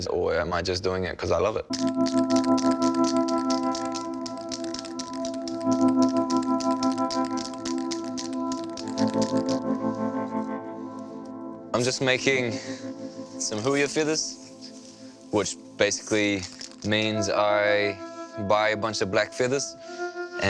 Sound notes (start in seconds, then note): 2.8 spray can rattles